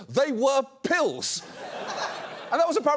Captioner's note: audience laughs